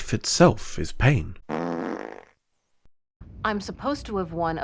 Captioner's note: fart noise